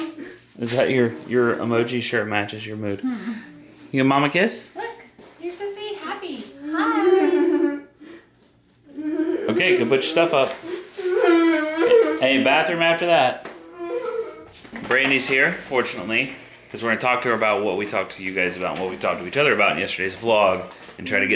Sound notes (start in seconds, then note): 6.7 laughing